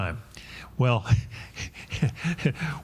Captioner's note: chuckles